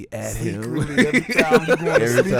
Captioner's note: laughing